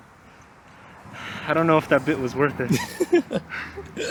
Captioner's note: laughing; sigh